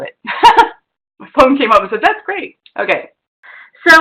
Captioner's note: laughs